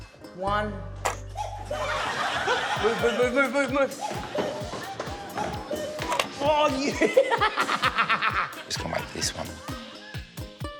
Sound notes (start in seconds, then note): 7.5 laughs